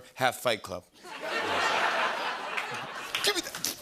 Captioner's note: laughter